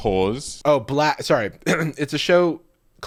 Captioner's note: clearing throat